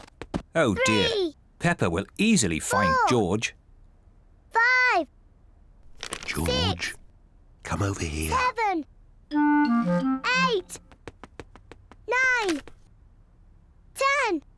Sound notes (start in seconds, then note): 6.4 whispering